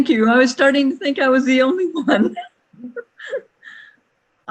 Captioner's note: laughing